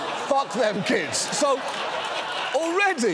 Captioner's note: audience laughing